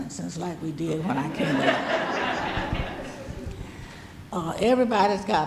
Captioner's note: audience laughing